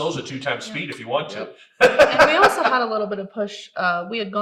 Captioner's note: laughs